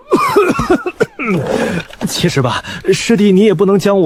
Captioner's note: clears throat